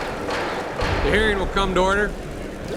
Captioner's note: gavel banging